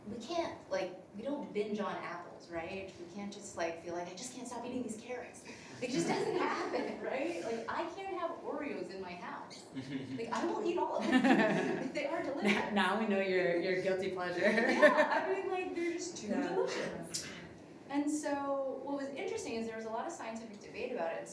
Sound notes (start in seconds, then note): 5.8 laughs; 11.0 everybody laughing; 14.4 laughs